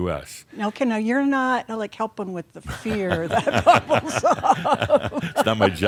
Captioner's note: they laugh